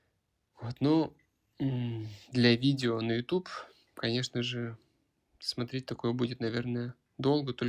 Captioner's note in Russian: откашливается